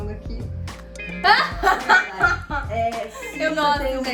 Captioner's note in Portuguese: Risos